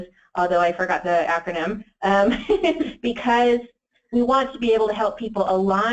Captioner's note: laughs